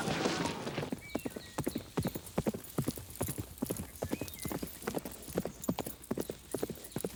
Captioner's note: hooves clop; birds chirp